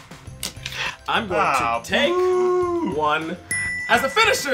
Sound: ding

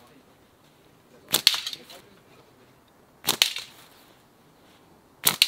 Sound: people chattering

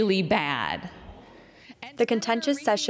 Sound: protesters chanting

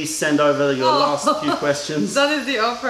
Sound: laughter

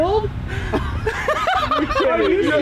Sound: laughing

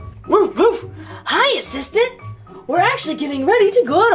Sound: dog barking

